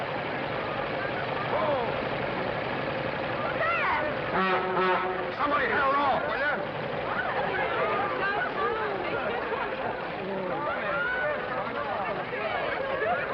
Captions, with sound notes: Hold! Sam! [horn beeps] Somebody hail it off, will you? [excited chatter]